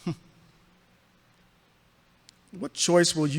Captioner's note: laughs mirthlessly